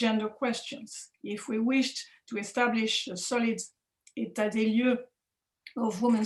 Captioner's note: french